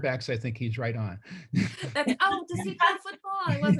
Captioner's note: laughing